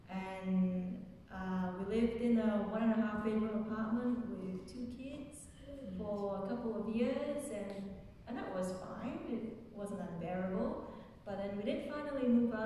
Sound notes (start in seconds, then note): none